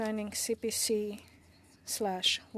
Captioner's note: speaking French